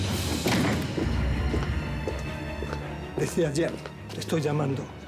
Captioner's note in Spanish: portazo